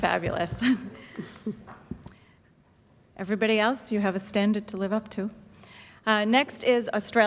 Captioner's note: chuckles